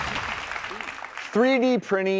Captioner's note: crowd clapping